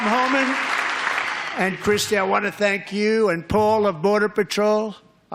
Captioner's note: applause